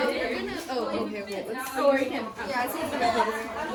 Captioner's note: general chatter